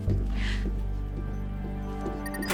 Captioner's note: inhales sharply